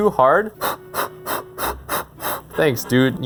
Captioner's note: blowing